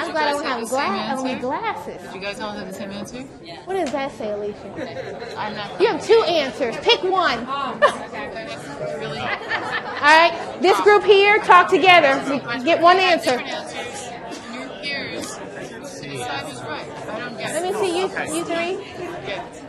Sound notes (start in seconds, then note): 2.9 voiceover